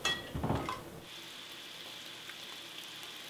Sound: frying

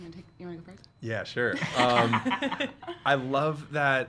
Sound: laughing

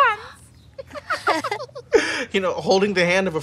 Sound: laughing

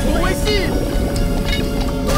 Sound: clock ticking

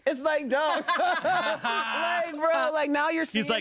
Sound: everyone laughs

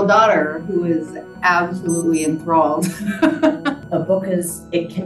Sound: laughs

